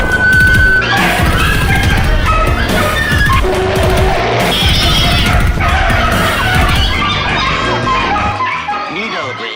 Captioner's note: dog & Cats Bark & Meow